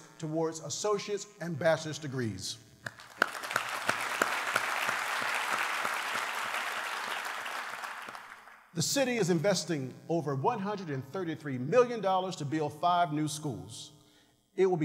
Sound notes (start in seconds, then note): 6.8 applause